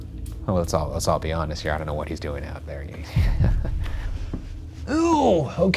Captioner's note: chuckling